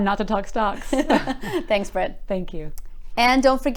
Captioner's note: laughs